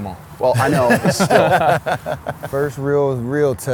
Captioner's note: laughs